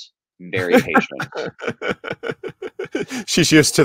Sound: laughs

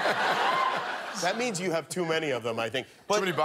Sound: laughter

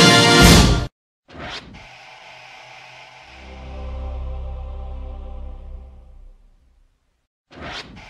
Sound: TV static and angelic singing

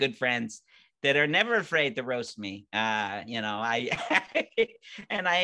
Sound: laughing

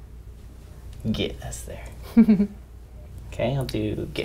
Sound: laugh

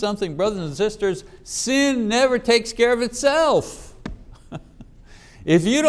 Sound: chuckling

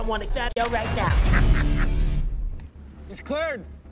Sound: maniacal laughter

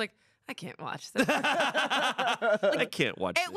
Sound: everyone laughs

